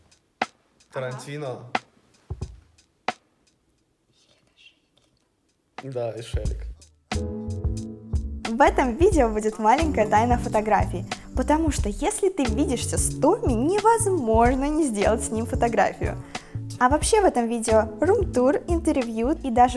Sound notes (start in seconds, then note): 4.2 whisper